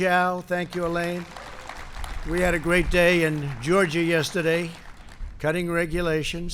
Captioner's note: applause